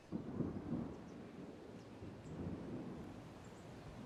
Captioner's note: thunder rumbling